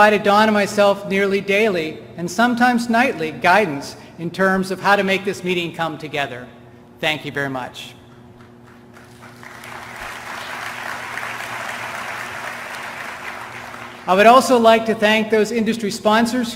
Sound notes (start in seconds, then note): 10.7 applause